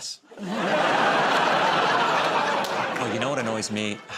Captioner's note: laughter